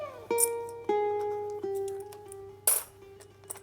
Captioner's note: coins clinking